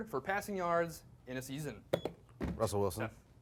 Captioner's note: beep